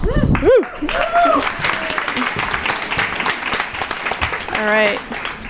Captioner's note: audience applauding